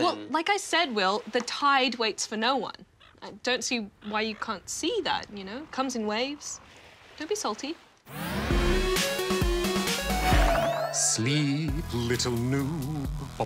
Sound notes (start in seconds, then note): 2.3 waves crash, seagulls squawk; 10.8 soothingly, to lullaby tune